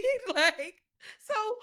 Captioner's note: laughing